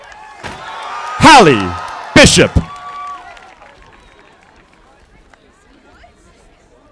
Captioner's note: audience applauding